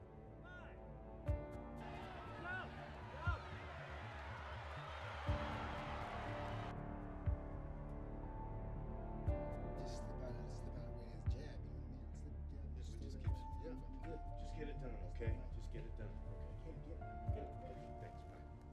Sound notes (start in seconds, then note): 1.0 pensive instrumental music; 1.7 audience cheering; 9.2 music drowning out speakers